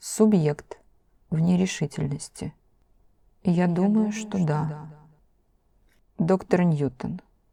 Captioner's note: with hesitation